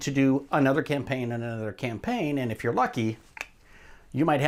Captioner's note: clicks tongue